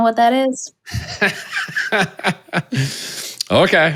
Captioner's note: laughs